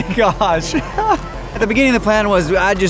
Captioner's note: laughing